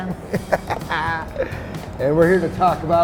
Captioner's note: laughing